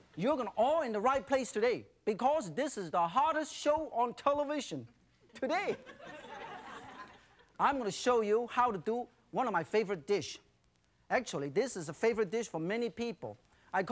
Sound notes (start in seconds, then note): 5.3 laughter; 5.8 crowd